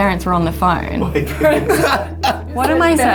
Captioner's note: laughing